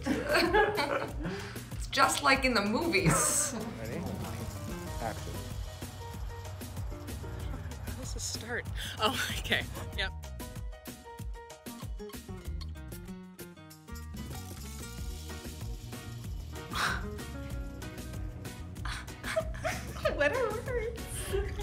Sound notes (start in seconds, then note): 0.0 laughing; 7.1 speaking faintly; 16.7 scoffs